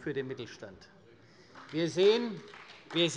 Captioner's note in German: Beifall bei der CDU